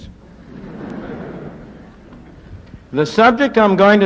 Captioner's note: laughter